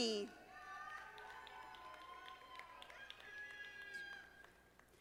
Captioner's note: audience applauding